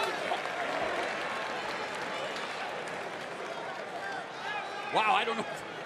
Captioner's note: crowd cheering